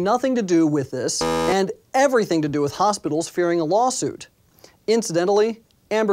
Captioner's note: buzzer